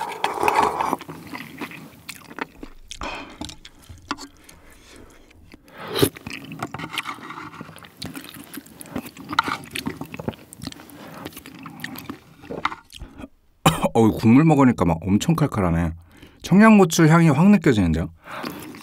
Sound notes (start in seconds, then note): 13.6 cough